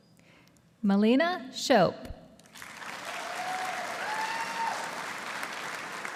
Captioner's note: audience applauding